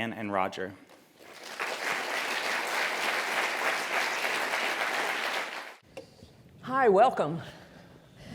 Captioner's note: applause